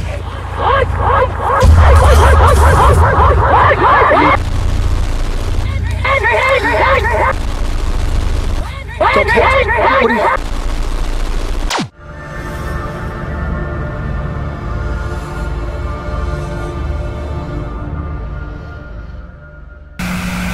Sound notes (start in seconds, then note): 0.2 pigs oinking; 4.7 distant, distorted shouting